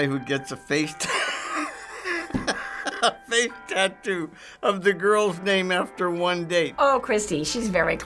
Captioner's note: laughing